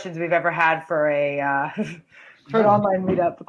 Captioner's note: laughs